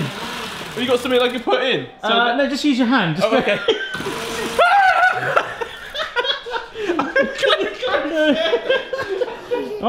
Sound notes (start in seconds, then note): 4.5 screams; 5.7 laughing